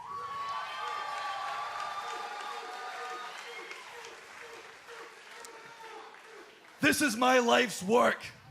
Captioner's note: cheers and applause